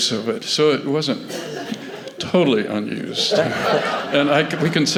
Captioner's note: laughter